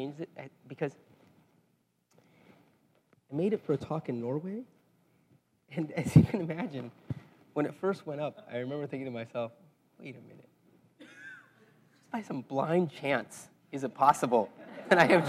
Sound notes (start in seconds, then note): 6.1 laugh